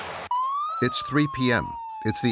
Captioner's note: siren blaring